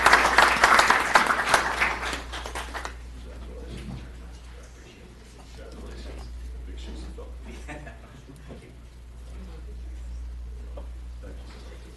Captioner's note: applause